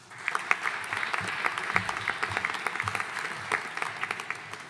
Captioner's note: audience applauding